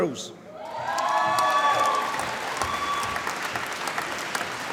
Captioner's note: applause